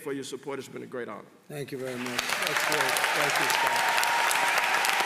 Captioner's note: applause